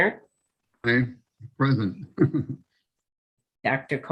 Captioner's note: chuckles